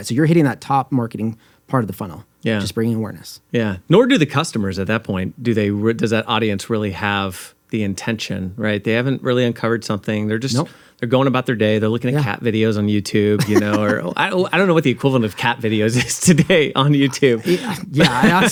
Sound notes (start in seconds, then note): 13.4 chuckles; 17.0 chuckles